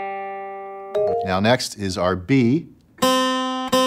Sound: app chiming; guitar strumming

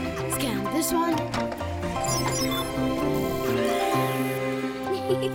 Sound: beeping and whirring; Sema giggles

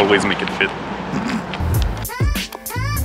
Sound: sniggering; relaxing upbeat music

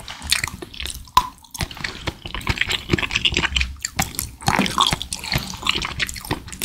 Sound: the sound of popping boba popping

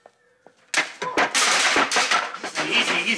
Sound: Debbie grunts

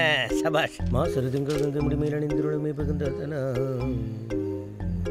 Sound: humming under his breath

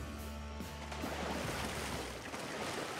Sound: splasashing

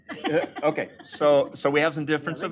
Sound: laughter

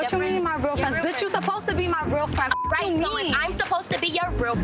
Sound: beep

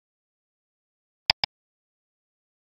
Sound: click click

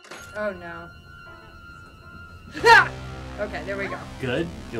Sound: jump scare

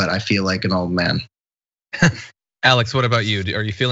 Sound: laugh

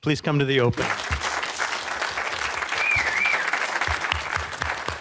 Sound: audience applauding

